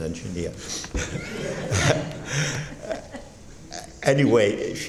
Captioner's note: laughing